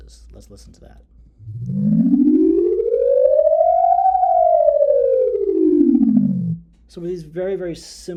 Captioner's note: sound ascends and descends